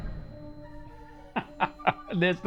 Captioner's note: laughing